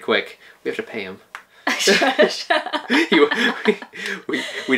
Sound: laughing

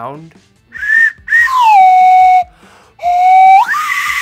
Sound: whistle shrills

